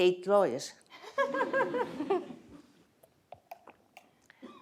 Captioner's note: laughter